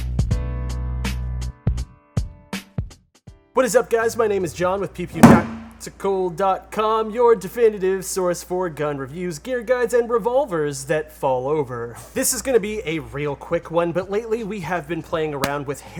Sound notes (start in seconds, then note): 5.2 gun thuds